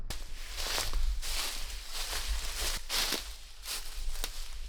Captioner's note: leaves crunching